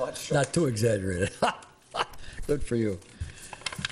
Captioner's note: laughs